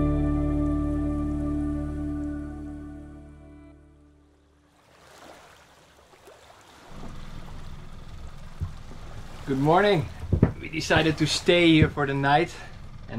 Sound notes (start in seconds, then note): 4.3 water splashing